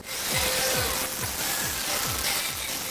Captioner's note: static noise